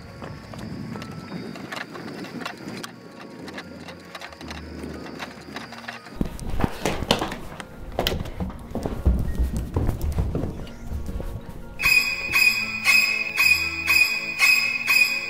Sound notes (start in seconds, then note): 0.0 footsteps on stairs; 0.3 footsteps on gravel; 6.1 footsteps on stone; 12.0 eerie violin plays